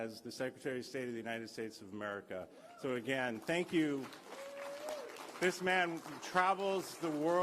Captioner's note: cheers